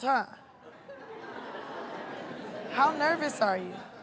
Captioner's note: laughter